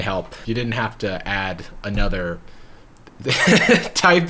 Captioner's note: laughs